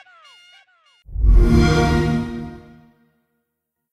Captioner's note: xbox sound